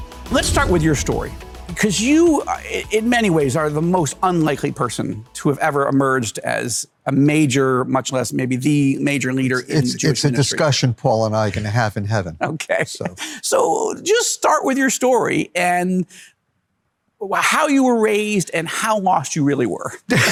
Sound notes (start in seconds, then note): 0.0 bright uplifting music continues; 11.4 laughs